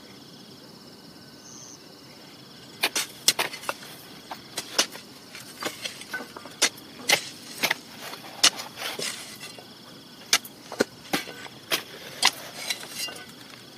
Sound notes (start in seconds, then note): 4.2 shovelling continues